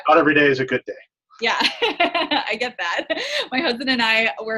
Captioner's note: laughing